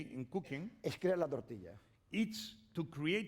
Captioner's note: speaking spanish